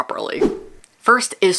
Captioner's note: whoosh